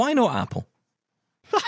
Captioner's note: laughter